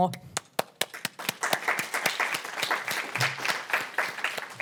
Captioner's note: audience applauding